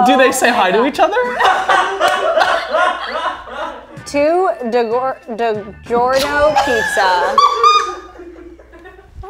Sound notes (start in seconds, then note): 0.6 all laughing; 1.2 cameraman laughing; 5.8 all laughing